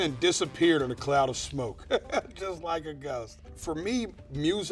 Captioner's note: laughing